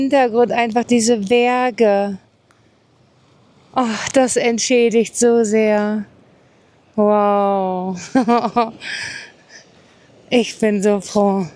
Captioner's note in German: gelächter; japst